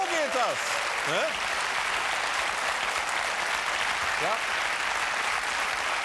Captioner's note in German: Applaus